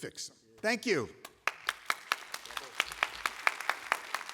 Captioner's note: applause